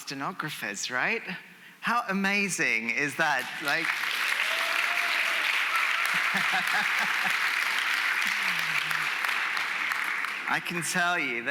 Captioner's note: applause